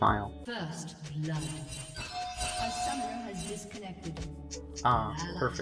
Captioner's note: in-game announcer stating ally deaths, followed by spam pinging